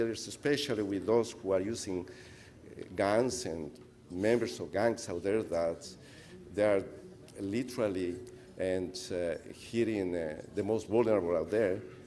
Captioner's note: speaker off mic